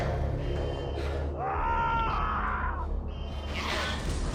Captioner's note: screaming; alarm blaring